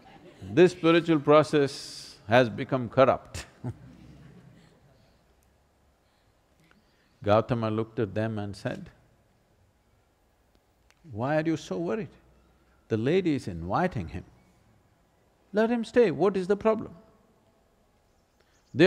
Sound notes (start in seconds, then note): 0.0 laughter; 3.4 laughs